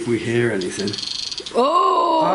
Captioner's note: Rem chirps